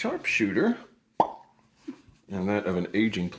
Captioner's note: lips pop